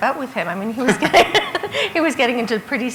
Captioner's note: chuckle